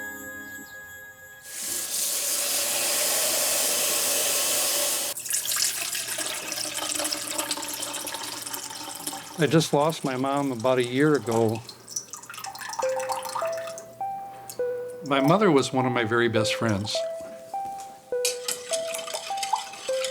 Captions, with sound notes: (faucet running) (water flowing) - I just lost my mom about a year ago. (gentle music) My mother was one of my very best friends. (gentle music)